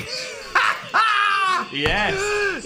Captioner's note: both laughing